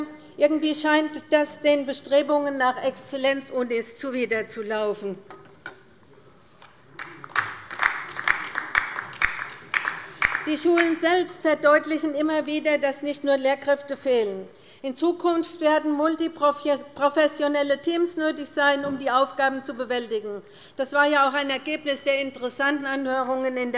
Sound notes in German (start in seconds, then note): 6.9 Beifall bei der LINKEN